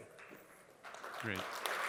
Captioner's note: audience applauds